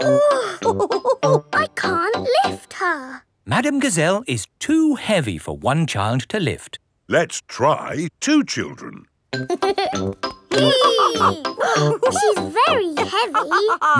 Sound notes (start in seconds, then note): 0.1 chuckles; 0.2 straining; 10.5 giggles; 10.5 madam gazelle laughing; 10.6 both straining